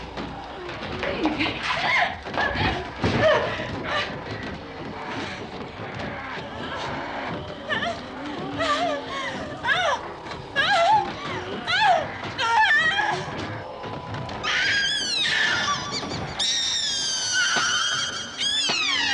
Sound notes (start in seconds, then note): 1.2 gasping; 8.4 whimpering; 13.4 high-pitched screaming